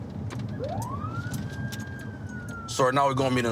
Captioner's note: siren